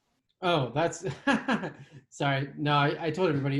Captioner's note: laughs